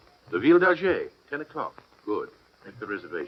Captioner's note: French